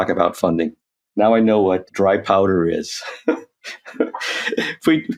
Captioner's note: chuckles